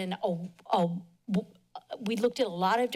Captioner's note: stutters